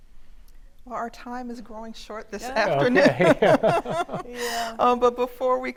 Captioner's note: laughs